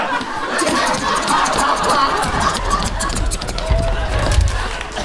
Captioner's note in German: Schnelle Pferdegeräusche